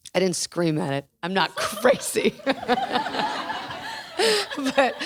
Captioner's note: laughs